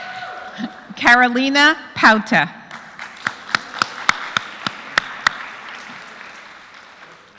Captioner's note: applause